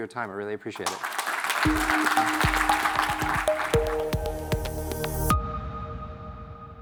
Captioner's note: audience applauds; upbeat music